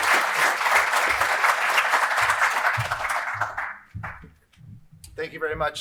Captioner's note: applause